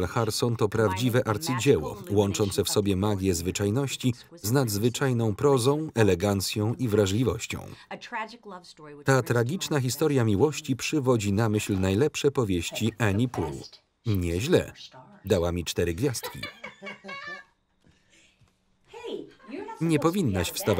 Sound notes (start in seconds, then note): 16.1 laughing